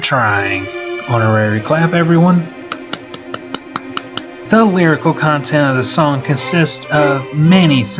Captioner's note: honorary clap everyone